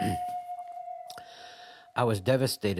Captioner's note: crying